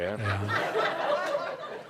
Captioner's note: laughter